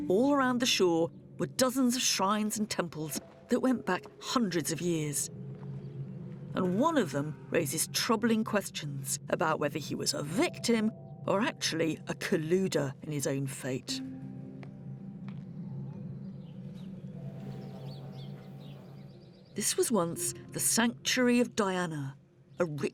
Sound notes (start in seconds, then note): 15.6 birds chirping